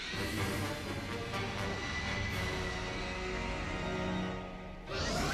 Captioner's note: screeches